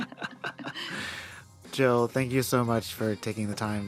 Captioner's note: laughter